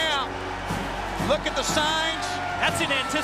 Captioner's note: crowd cheering